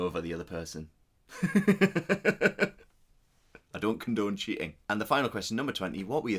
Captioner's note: laughs